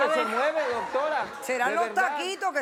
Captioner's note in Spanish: Risas del público